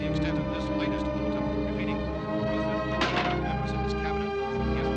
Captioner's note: radio becomes faint, continues